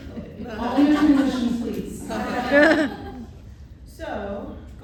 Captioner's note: laughter